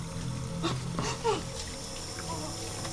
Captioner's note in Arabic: تذمر